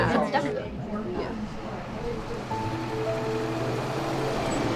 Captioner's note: bus humming